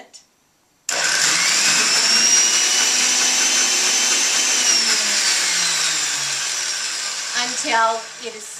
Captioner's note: blender starting and stopping